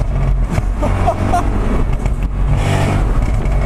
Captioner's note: laughs uncontrollably